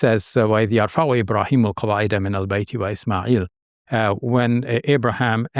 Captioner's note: speaks a foreign language